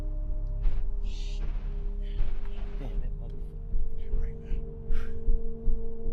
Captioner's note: mumbling to each other